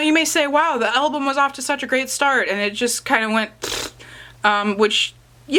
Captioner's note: blows raspberry